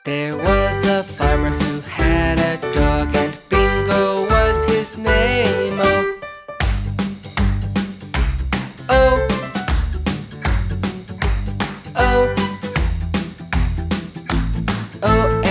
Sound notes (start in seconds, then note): 7.2 clapping; 10.3 clapping; 13.2 clapping